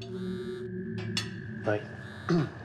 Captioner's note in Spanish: suena el celular